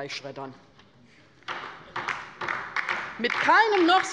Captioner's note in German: Beifall bei der LINKEN